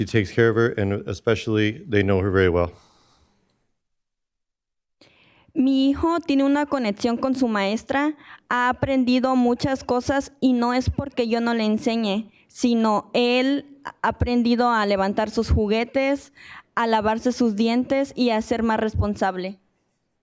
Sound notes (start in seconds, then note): 7.0 speaking in spanish